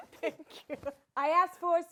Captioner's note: laughs